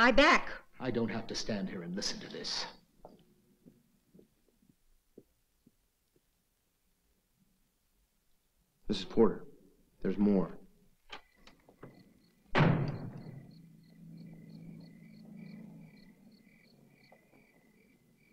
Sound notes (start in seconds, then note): 12.5 door slams; 13.4 crickets softly chirping